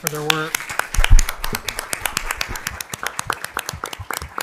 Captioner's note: crowd clapping